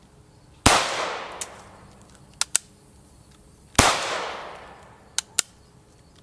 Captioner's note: gunshots